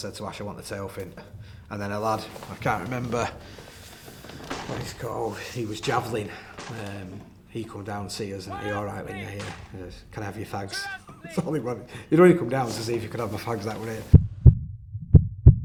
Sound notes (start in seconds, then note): 11.2 laughing